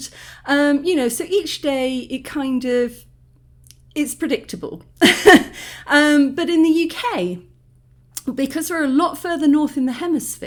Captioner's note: laughing